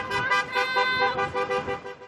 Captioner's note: horns honking